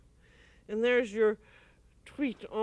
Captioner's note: speaking french